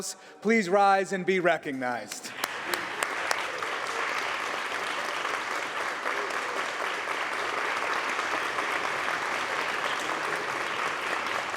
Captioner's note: applause